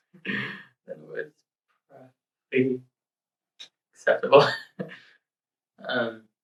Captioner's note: chuckles